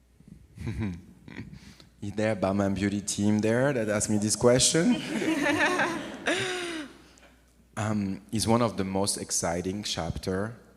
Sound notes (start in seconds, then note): 0.6 oliver chuckles; 4.7 audience laughs